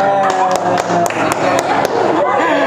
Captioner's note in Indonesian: Applause